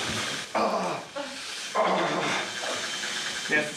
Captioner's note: armitage grunting